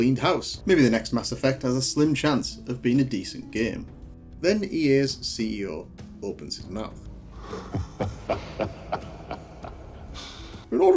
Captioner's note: laughing